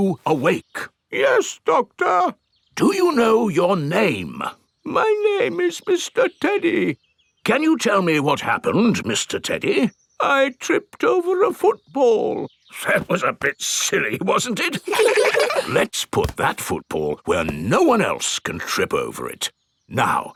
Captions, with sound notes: Are you awake? (IN TEDDY'S VOICE) Yes, Doctor. (IN NORMAL VOICE) Do you know your name? (IN TEDDY'S VOICE) My name is Mr. Teddy. (IN NORMAL VOICE) Can you tell me what happened, Mr. Teddy? (IN TEDDY'S VOICE) I tripped over a football. (IN NORMAL VOICE) That was a bit silly, wasn't it? (KIDS LAUGH) Let's put that football where no one else can trip over it.